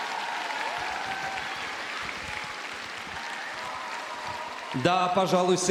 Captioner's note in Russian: аплодисменты